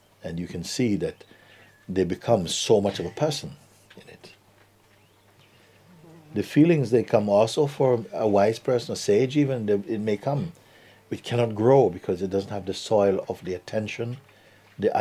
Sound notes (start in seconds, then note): none